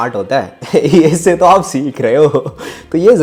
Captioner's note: laughs